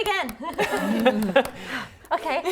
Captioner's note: clapping